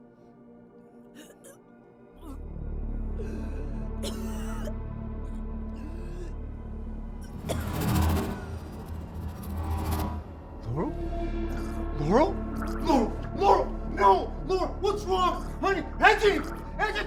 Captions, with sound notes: (person coughing) - Laural. Laural, no, what's wrong, honey?